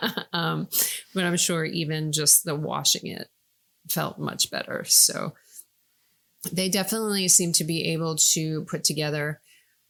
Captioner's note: laughing